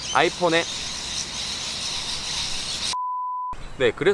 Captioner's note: suddenly birds yelling